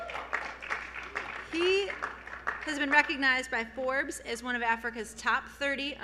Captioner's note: applause